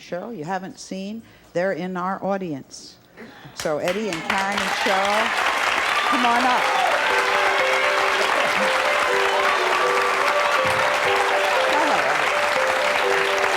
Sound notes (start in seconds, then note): 6.1 light music; 6.8 clapping